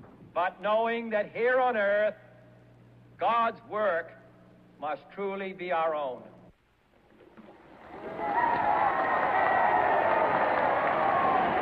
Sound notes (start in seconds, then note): 7.8 cheers